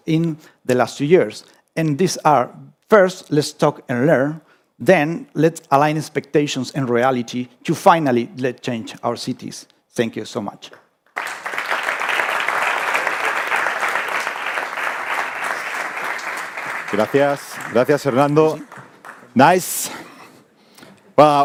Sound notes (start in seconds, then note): 11.1 audience applauding; 17.3 speaking in foreign language